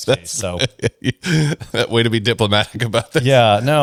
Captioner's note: laughs